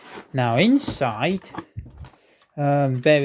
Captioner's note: none